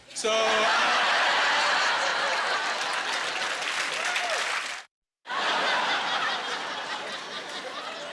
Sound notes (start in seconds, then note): 0.1 laughing and applause